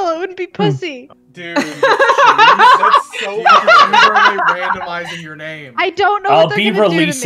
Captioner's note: cackling